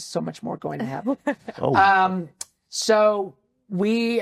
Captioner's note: laughs